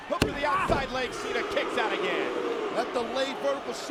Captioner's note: crowd clamoring; hands thudding